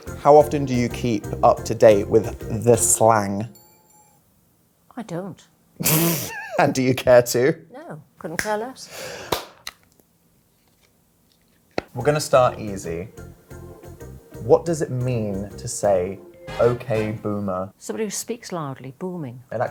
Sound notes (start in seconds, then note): 0.0 gentle upbeat music; 6.0 laughing